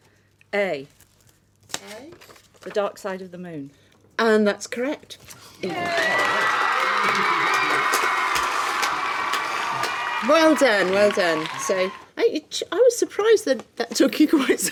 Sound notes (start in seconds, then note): 5.6 cheering sound effect